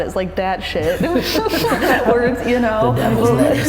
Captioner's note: laughing